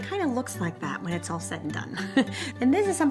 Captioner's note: chuckles